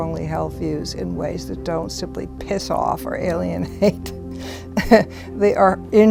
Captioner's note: chuckles